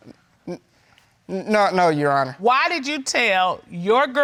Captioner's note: stammers